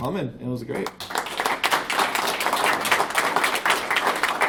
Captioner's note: applauds